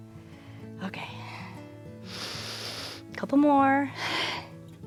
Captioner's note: inhales